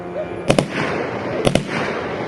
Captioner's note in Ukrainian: автоматні черги